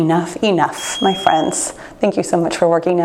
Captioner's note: timer beeps